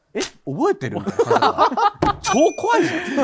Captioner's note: laughter